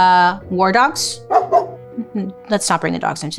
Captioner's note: dog barking